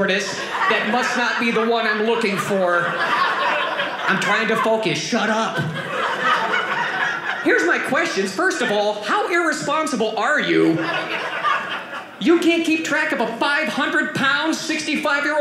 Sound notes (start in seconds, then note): 6.2 audience laughing